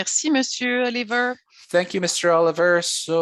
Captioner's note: speaking French